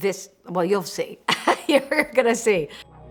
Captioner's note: laughs